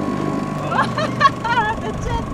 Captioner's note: laughs